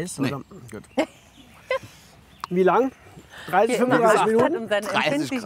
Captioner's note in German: lacht